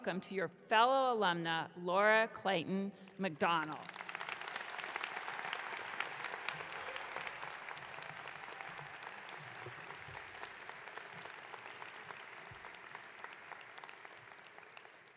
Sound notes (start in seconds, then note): 4.0 audience clapping